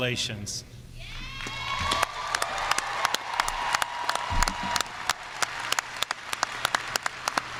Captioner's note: students cheering; audience applauding